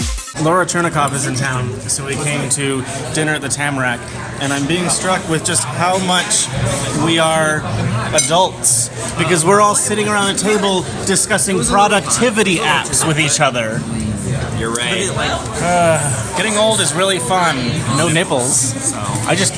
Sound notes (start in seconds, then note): 0.0 fast-paced transition music; 16.3 sarcastically